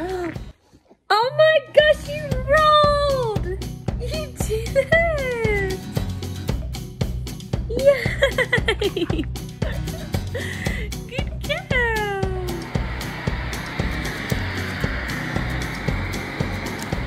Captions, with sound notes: - Oh my God she's rolled. (upbeat music) You did it. Yay. (laughs) Good girl. (machine whirring)